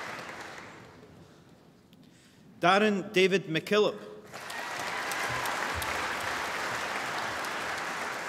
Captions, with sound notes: Darren David McKillop (APPLAUSE)